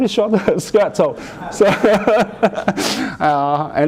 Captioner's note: laughter